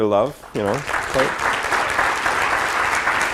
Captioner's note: applause